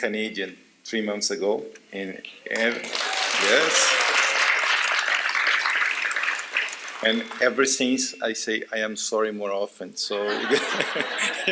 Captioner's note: applause